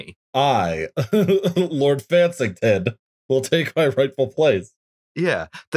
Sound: laughter

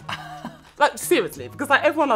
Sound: chuckle

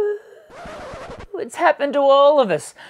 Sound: record scratching

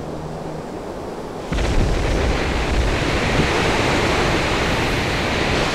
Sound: wave crashes

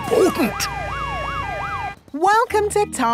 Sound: sirens wailing

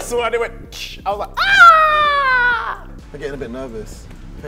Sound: shout

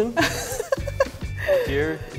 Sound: laughs

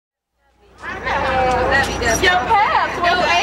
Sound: group chattering

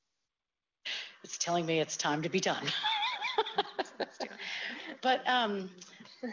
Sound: laughs

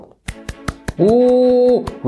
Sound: Chirik applauding

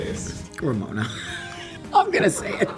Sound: laughs

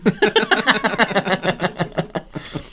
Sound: mischievous Laugh

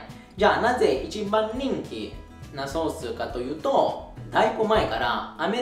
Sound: Italian

